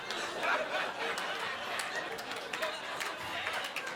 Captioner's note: audience laughing